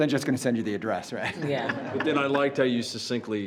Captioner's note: all laughs